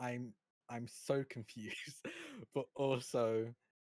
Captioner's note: chuckles